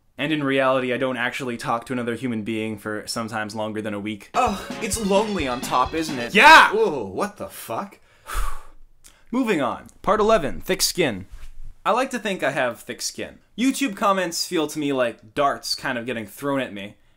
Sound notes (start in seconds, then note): 4.4 pompous Tone; 6.3 angriest Tone Possible